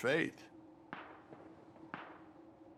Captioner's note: sporadic gunfire